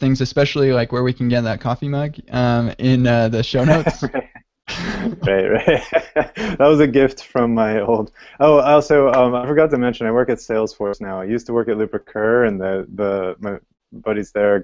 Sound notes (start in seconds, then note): 4.7 laughter